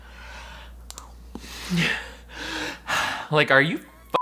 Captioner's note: breathing loudly